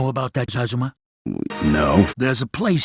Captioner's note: stuttering